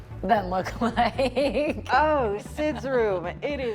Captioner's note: laughs